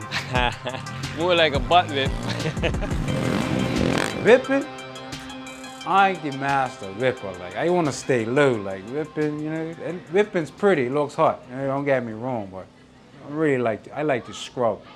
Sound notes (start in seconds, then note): 0.0 laughs; 4.7 rap instrumental fades out